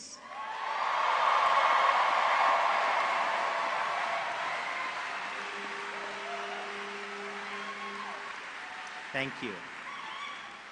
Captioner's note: applause